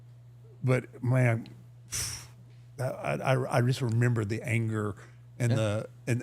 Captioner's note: blowing raspberry